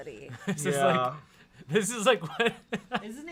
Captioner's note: laughing